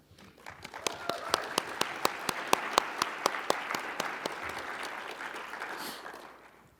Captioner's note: audience applauding; audience cheering